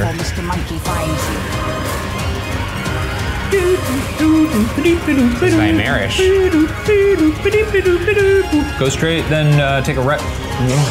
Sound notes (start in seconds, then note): 1.3 tense music; 3.4 imitating tense music